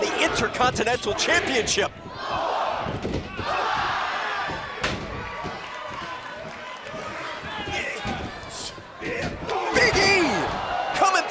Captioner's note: crowd cheering